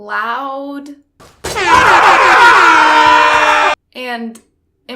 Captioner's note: air Horns Sound Effect and Screaming